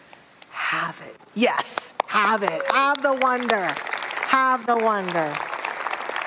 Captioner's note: audience applause